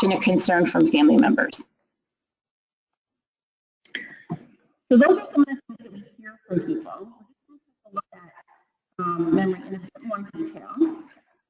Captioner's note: pause, sound drops out